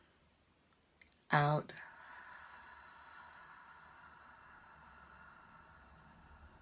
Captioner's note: exhaling